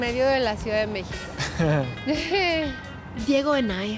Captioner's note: both laugh